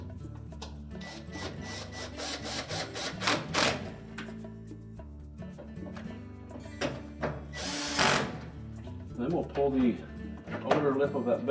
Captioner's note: electric screwdriver